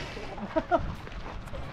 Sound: laughs

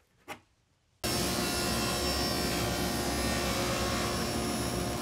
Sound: saw brattling

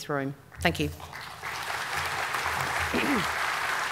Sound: applause

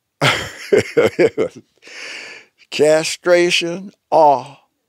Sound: laughing

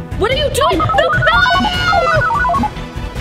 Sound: robot sound

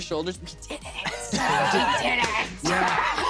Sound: laughter

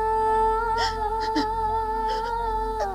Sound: crying

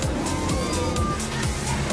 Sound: screaming

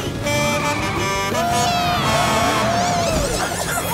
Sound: cheering

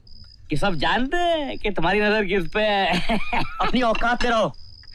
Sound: laughs

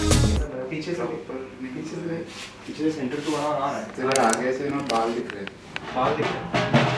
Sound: conversation in Hindi

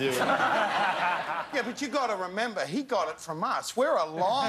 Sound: laughter

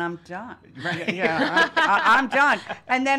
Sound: laughing

